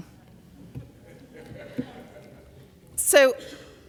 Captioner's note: audience laughs